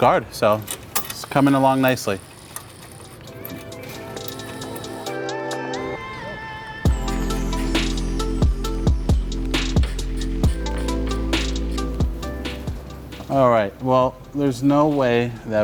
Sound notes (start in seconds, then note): 0.8 tool whirring; 2.1 soft upbeat music; 9.8 soft upbeat music; 9.8 tool cranking